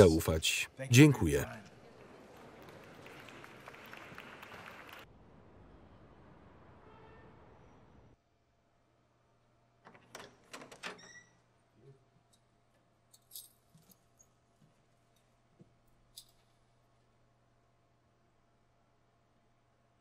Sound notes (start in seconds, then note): 1.7 audience clapping